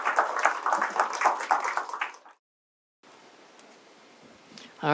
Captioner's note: applause